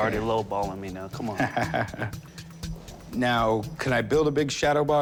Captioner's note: chuckles